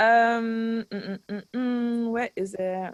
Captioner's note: humming